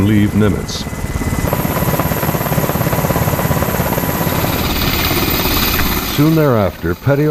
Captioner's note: helicopter propellers spinning